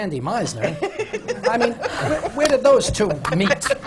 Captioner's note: laugh